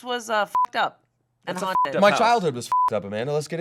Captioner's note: beep